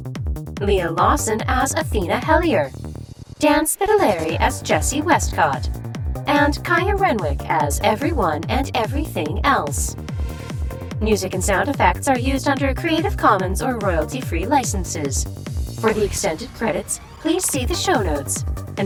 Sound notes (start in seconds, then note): none